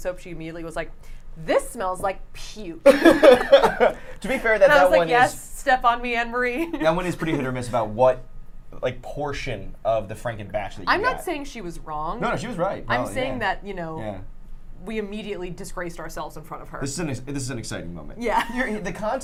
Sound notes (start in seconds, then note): 2.8 laughs; 2.8 laughing; 18.7 laughs